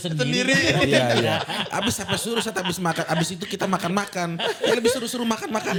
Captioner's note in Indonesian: tertawa